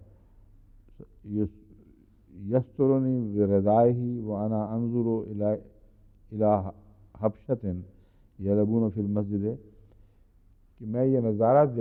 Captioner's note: Arabic